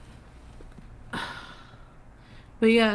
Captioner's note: sighs